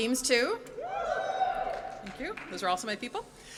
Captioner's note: audience cheers